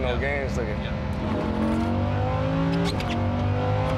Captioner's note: engine revving